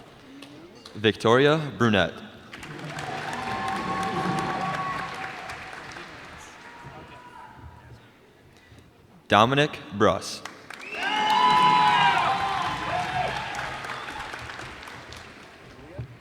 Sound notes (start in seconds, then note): 2.5 cheers and applause; 10.6 cheers and applause